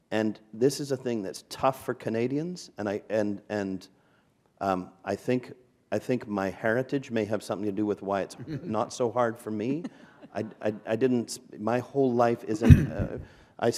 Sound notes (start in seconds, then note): 9.7 chuckle